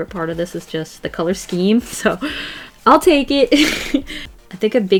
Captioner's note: laughs